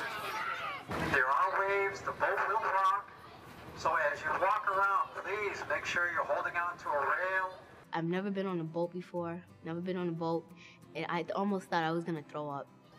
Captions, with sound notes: [Loudspeaker on boat] Make sure you're holding on to a rail. [Girl talking] I've never been on a boat before-- never been on boat--and I almost thought I was going to throw up!